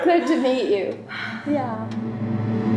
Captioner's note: sighs